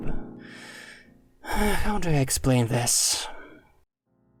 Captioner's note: sigh